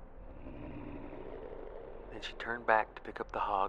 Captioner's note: animal growl